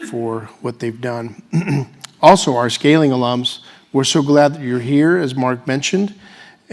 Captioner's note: cough